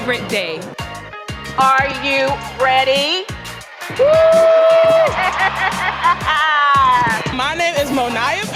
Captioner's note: applause and cheering